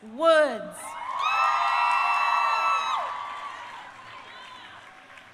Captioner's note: crowd cheering